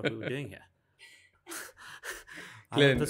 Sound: laughing

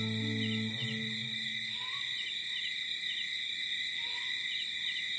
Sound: crickets chirping; light jungle ambience

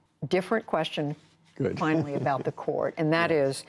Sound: laughter

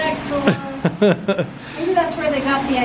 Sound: laughs

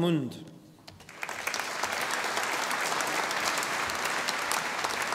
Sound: audience applauding

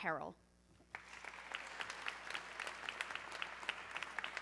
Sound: audience clapping

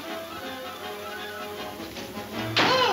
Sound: door slams

